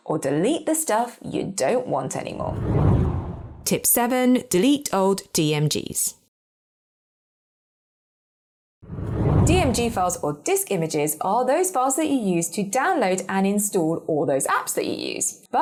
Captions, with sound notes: or delete the stuff you don't want anymore. (air whooshing) Tip seven, delete Old DMGs. (air whooshing) - DMG files or disc images are those files that you use to download and install all those apps that you use,